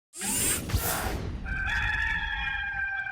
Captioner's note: air whooshing; cock crows